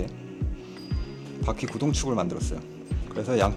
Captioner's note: squeak squeak